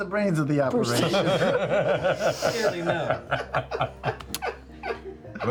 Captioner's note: laughter